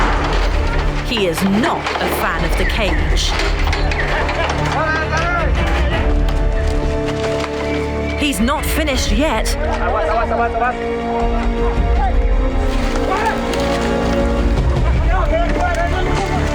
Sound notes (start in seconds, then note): 4.3 men yelling; 10.0 in foreign language; 12.9 men yelling